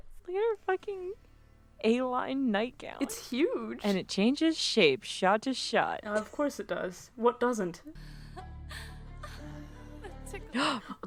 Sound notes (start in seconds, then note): 8.1 gross anime sex noises; 10.6 gasps